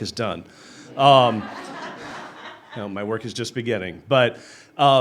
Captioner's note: laughter